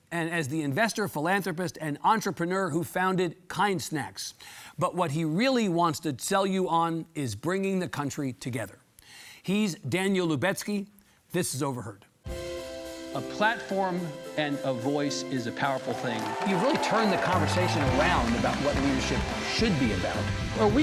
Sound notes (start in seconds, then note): 12.6 gentle instrumental music; 15.5 audience cheering